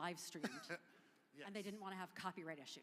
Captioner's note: chuckling